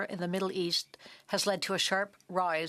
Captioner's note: speaking French